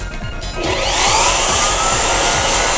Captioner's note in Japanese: けたたましいブロワーの音